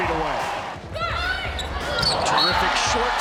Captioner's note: cheering